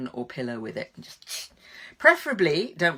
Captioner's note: tongue hissing